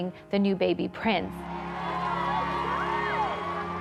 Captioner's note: crowd cheering